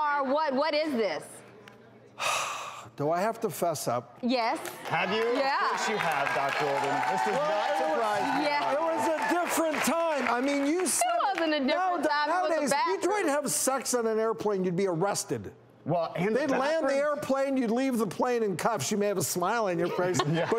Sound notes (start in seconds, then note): 2.2 sighs; 9.0 audience cheering